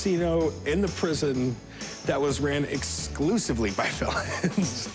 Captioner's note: laughs